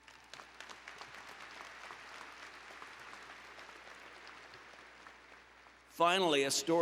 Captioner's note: applause